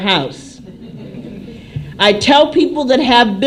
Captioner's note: laughter